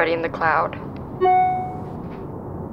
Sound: <i>cell phone pings</i>

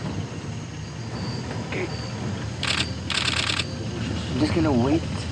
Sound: camera clicks

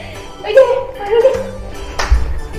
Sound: laughs

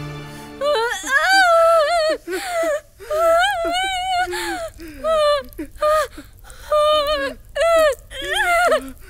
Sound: cries in pain

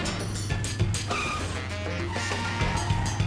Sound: tires screech

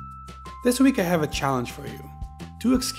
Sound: voiceover

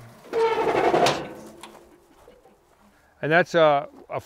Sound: loud metallic screech

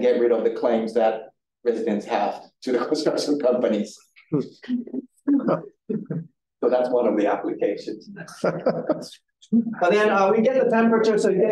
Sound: audience chuckling

